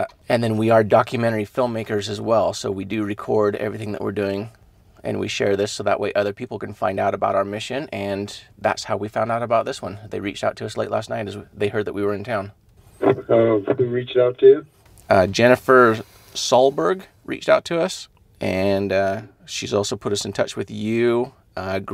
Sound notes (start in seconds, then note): none